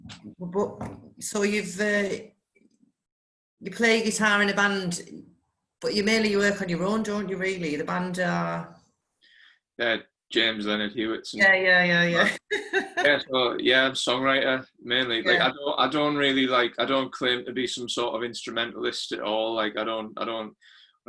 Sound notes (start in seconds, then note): 12.2 laughs